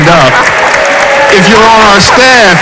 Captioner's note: audience applauds